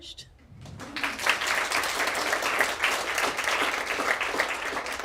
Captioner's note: audience applause